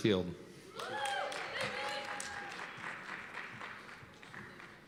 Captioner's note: cheers and applause